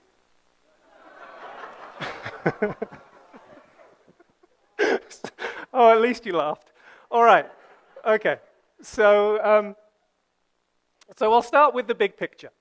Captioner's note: audience laughs